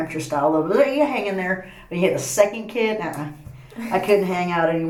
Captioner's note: laughs